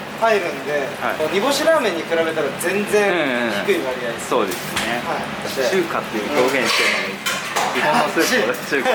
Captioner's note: laughs